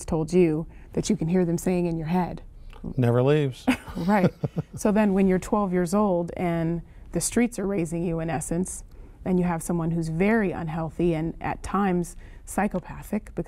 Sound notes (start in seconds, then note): 3.6 laughter